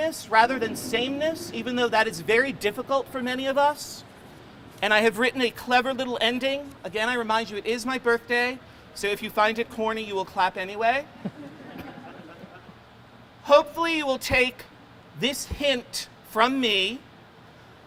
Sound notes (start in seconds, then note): 11.2 crowd laughing